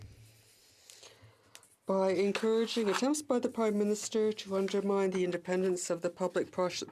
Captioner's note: speaking in french